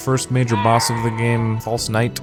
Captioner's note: Lego Yoda death sound